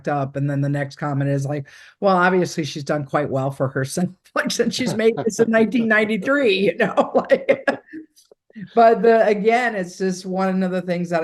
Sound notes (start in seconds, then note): 6.8 laughing